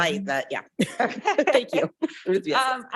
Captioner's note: laughing; chuckles